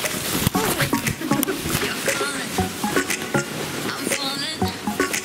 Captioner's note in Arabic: يضحك